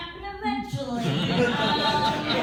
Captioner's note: laughter